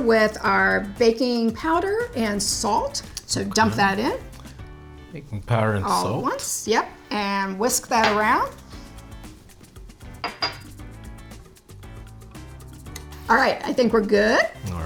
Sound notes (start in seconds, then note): 9.9 upbeat music continues; 10.1 bowl clatters